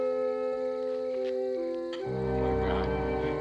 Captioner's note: laughs